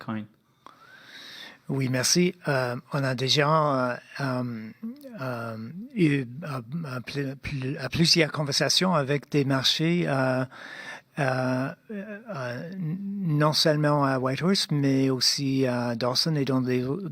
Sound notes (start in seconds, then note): 2.5 speaking French